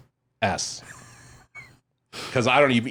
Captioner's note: laughs